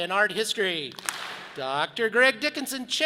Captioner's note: audience claps